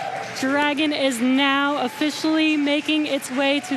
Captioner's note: cheering and Applause